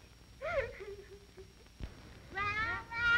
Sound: children playing

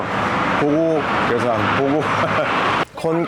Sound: laughing

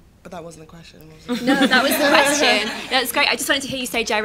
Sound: laughter

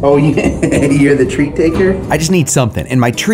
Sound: laughs

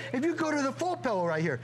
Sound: laughter

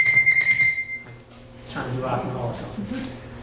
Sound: electronic beeping

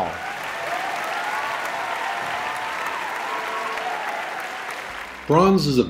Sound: applause

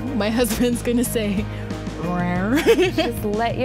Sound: laughs

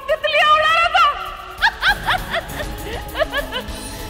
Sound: laughs

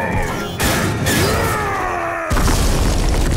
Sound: grunting

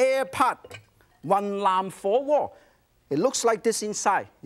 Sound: foreign language

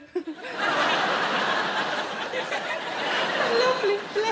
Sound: audience laughing

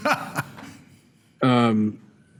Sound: laughter

